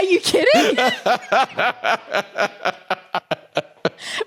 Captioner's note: laughs heartily